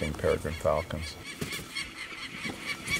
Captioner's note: peregrine Falcon Call